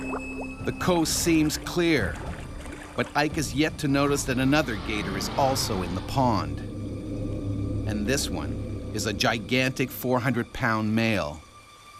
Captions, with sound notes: - [Voiceover] The coast seems clear. But Ike is yet to notice that another gator is also in the pond. And this one is a gigantic 400 pound male.